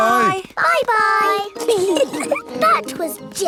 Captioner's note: giggling